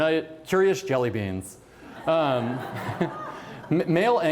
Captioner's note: laughter